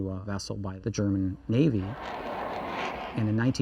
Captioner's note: aircraft flying